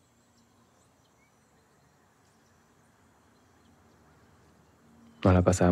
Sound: birds singing continues

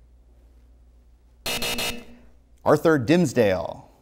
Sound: buzzer

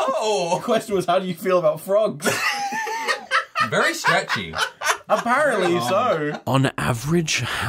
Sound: laughter

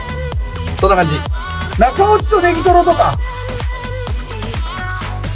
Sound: staff speaks in japanese

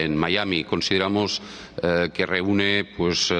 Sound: speaking spanish

